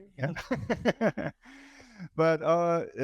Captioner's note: all laughing